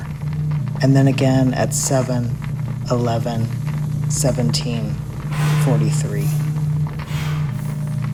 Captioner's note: blowing sound